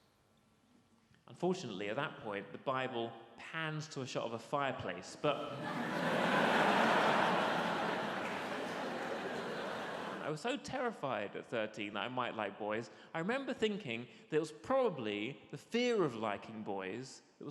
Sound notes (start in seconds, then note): 5.3 audience laughs